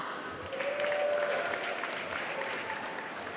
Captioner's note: applause